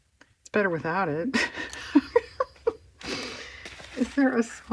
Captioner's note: laughs